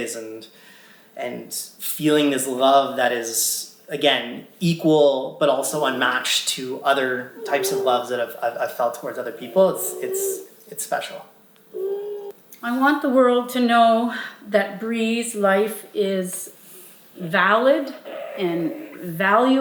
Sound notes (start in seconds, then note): 11.7 vocalizing